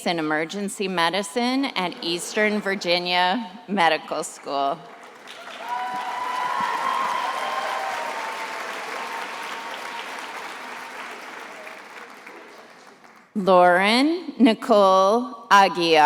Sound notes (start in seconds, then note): 4.8 attendees applauding and cheering